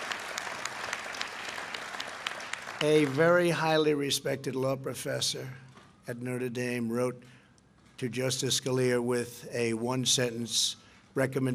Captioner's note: applause